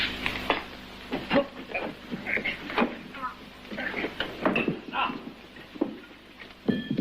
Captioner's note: grunting and straining